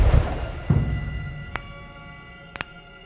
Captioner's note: cracking